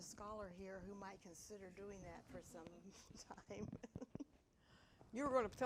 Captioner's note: laughs